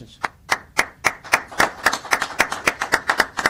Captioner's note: applause